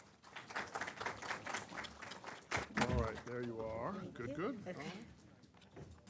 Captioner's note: applause